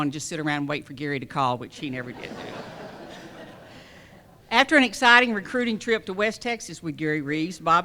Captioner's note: laughter